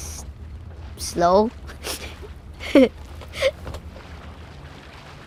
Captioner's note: laughing